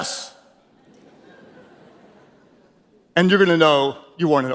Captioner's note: audience chuckles